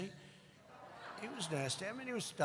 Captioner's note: laughter